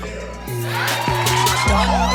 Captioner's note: crowd cheering; hip hop music playing